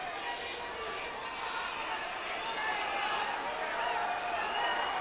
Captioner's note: crowd clamors